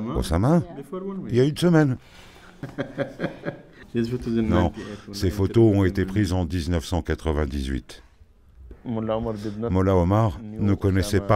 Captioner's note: laughs